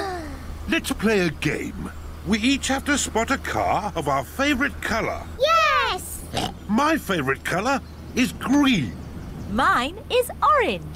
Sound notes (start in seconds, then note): 6.3 oinks